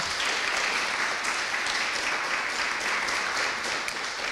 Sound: applause

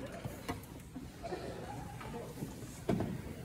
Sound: cough

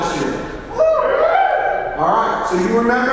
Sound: audience cheering

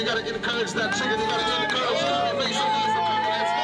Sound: cheering

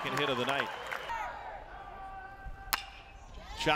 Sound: crack

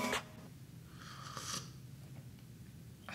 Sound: sipping

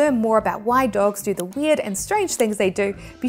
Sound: graphics clicking

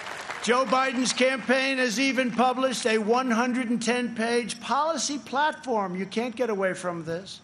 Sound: applause

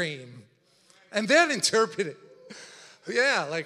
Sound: laughs

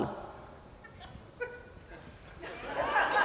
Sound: laughter

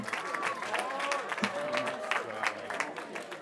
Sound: cheering

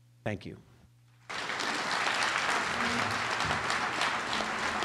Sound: audience applauds

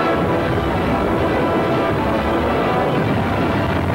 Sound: cannons booming

